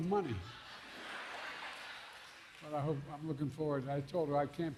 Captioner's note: laughter